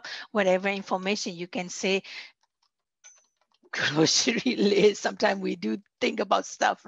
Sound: laughter

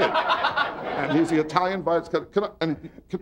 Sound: audience laughing

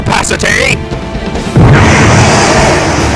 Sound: big awoo

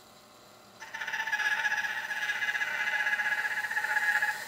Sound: saw zings

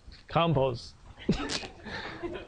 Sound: laughs

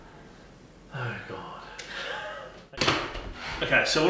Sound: laughing

